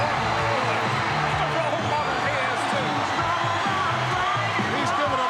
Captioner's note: audience cheering